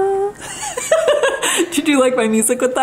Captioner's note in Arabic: يضحك